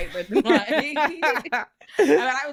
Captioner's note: both laughing